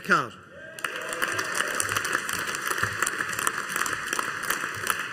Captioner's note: audience applauding